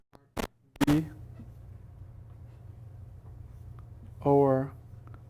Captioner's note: microphone static drowns out speaker